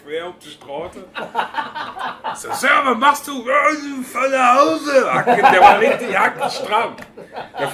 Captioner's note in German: lallend